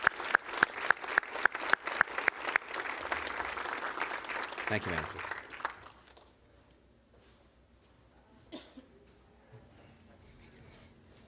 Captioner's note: applause